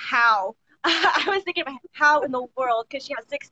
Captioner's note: laughs